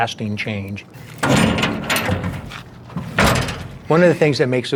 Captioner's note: door latch opening